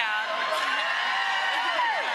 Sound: audience cheering

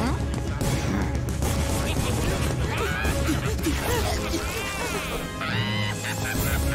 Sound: laughing

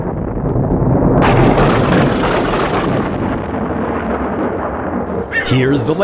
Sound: loud thunder; rumbles of thunder

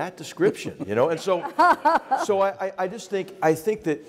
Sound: laugh

